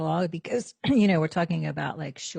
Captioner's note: clears throat